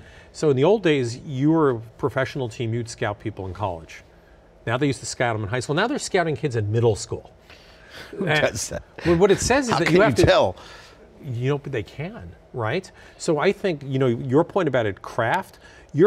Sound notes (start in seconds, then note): 9.0 laughs